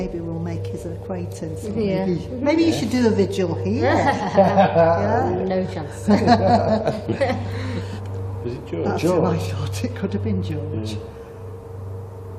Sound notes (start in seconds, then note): 3.8 men laugh